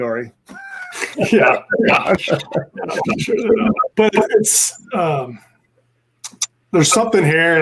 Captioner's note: laughing